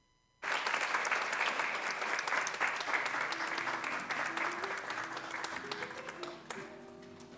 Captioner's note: applause